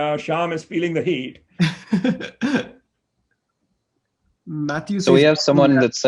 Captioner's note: laughs